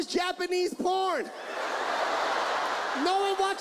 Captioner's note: audience laughs